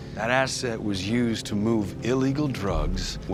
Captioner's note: none